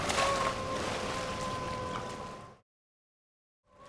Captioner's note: water splashes